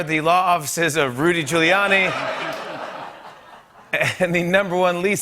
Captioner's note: laughter